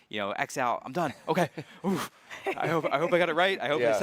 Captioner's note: sighs